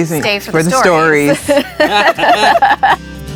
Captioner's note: group laughs